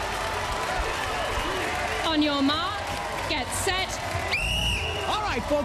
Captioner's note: whistle blows